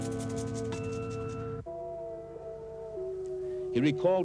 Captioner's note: wolves howling